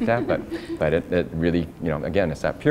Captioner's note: laughter